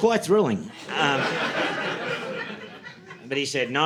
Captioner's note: audience laughing